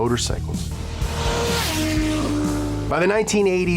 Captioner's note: motor cycle roars